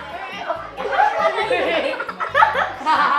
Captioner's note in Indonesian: anak-anak tertawa